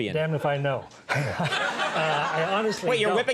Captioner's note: audience laughs